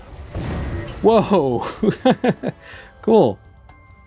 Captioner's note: laughing